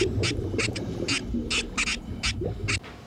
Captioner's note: squeaking